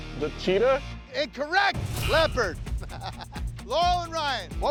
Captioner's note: laughs